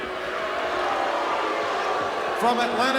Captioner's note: crowd boos